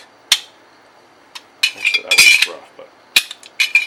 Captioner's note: clicks